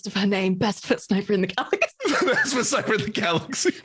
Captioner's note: laughs